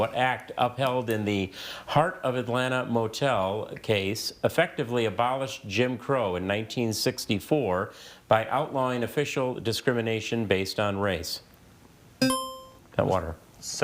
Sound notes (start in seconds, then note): 12.2 buzzer chiming